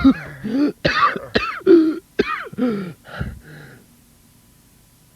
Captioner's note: coughing